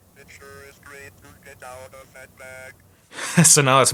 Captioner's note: robotic Voice